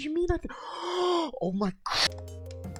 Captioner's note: tilted gasp